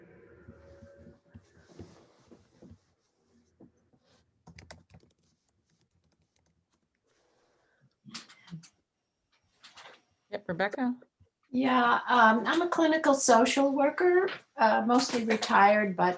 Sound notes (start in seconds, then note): 5.8 silence continues